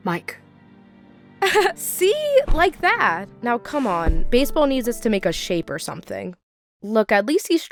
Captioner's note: laughs